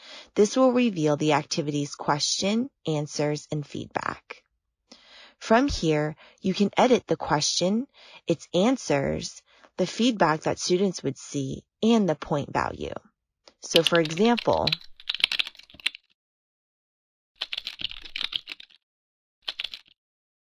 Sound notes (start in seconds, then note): 14.8 typing